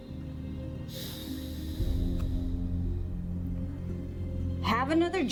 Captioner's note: Nate sighing heavily